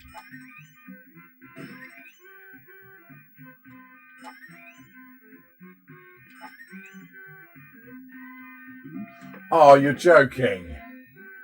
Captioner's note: bouncy bouncy noises